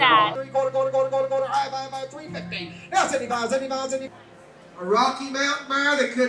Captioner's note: auctioneer mumbling out prices